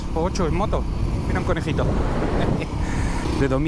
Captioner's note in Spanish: risas